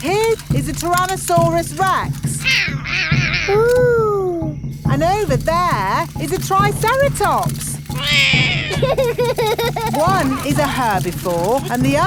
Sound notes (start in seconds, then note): 2.5 roaring; 6.7 laughs; 7.9 roars